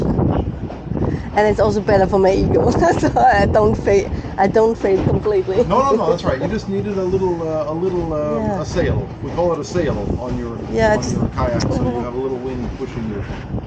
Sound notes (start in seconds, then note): 5.0 laughing